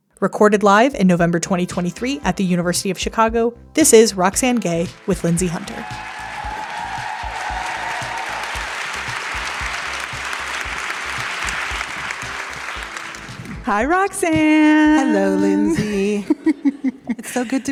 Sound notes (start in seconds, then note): 7.3 theme music plays; 9.3 audience applause